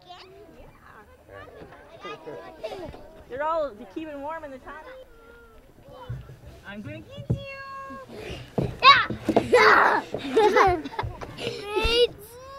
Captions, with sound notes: They're all keeping warm in the tunnel. I'm going to get you! [laughing]